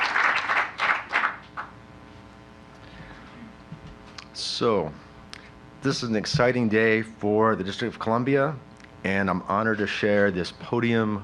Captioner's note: applause